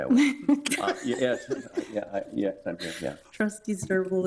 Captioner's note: both laughing